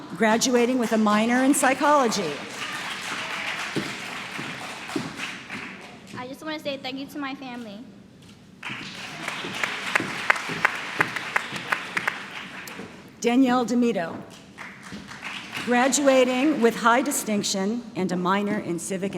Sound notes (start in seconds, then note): 3.2 applause; 8.6 applause